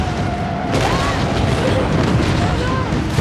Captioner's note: screams